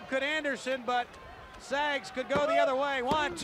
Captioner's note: crowd chatter